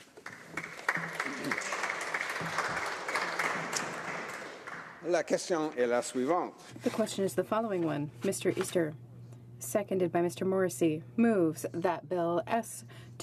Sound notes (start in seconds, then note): 11.2 speaking French